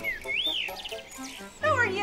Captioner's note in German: Vögel zwitschern